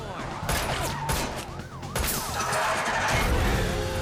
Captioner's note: gunfire and tires screeching